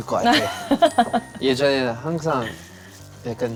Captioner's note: she's bursting into laughter at his humor